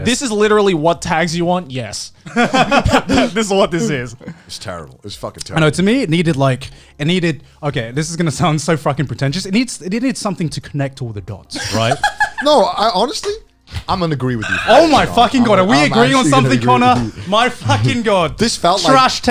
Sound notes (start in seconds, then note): 11.6 laughing